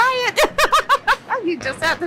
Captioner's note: laughs